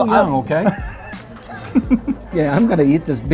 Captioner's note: laughs